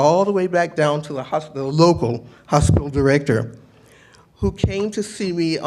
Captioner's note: none